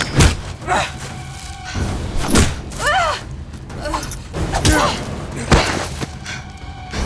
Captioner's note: grunts